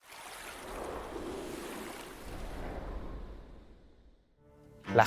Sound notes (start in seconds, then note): 0.0 rushing water; 0.6 gust of wind